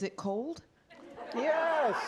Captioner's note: laughter